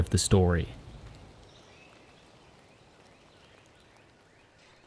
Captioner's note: birds chirping